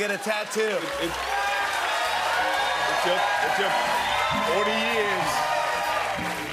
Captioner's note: cheers and applause